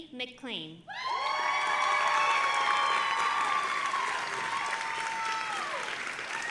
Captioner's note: audience applauding and cheering